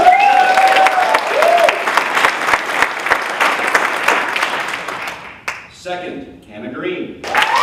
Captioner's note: applause